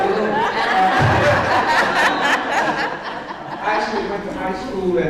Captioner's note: audience laughs